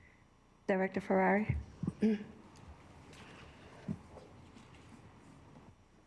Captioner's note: clears throat